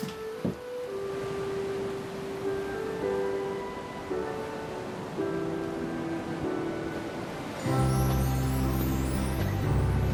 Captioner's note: ocean waves rolling in